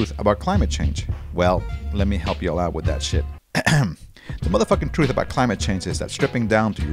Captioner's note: ahem